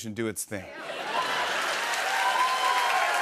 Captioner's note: cheers and applause